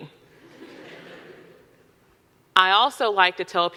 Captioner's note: audience laughing